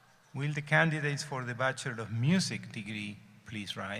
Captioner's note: none